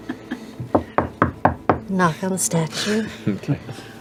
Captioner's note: laughs; knocks